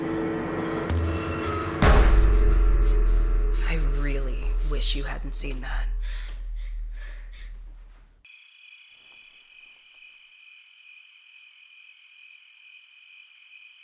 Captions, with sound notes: (Robin gasping) - I really wish you hadn't seen that. (crickets chirping)